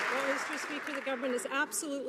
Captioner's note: some Applause